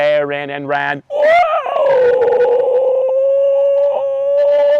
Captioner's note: screeching